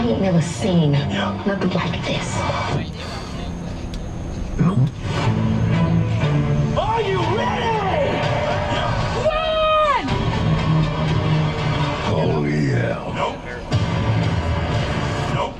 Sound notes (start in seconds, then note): 5.6 dramatic music; 8.4 crowd cheering